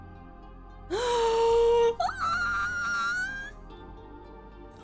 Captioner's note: squeal